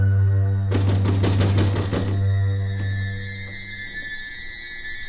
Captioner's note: Nick knocking